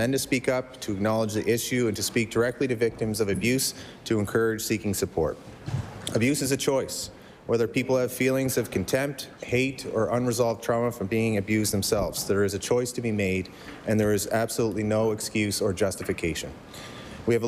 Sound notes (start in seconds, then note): none